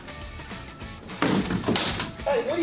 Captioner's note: clattering